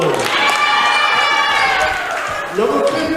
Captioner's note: cheering